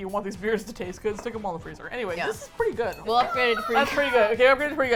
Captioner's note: laughs